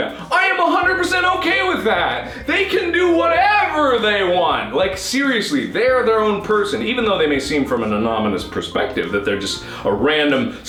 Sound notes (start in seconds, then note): 2.1 yelling